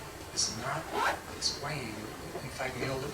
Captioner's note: none